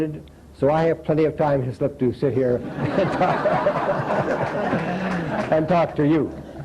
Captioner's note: laughter